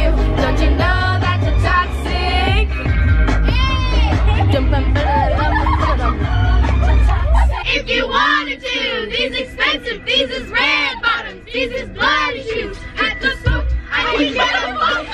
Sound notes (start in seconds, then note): 4.0 laughing